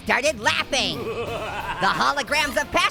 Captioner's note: Joker evilly laughing